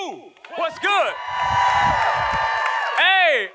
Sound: audience applauding

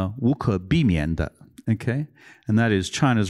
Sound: non-english speech

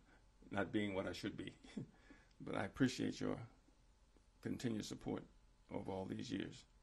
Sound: laughs

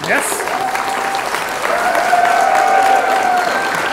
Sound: applause

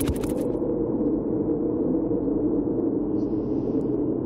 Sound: wind rushes

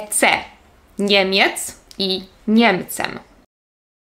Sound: German

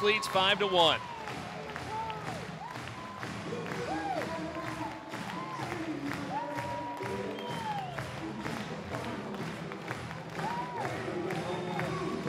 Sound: crowd cheering and clapping

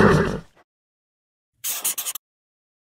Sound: whistle followed by a horse's neigh; marker scribbling

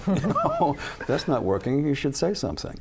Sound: laughter

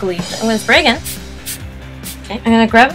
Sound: spray sound X3

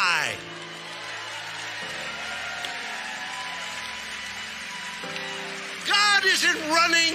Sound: congregation cheering and clapping

